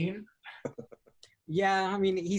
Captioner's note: laughs